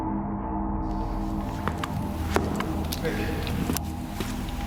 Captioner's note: steps thudding